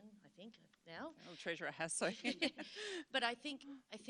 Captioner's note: laughs